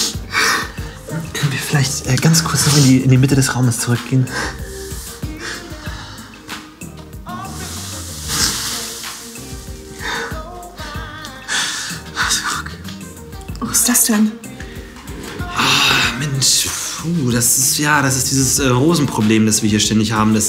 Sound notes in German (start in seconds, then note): 4.2 schluchzt